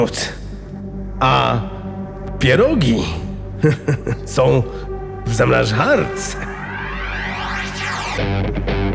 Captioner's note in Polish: hehehe